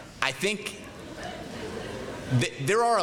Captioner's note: laughter